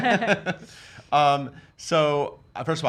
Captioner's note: all laugh